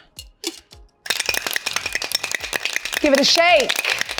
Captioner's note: container rattles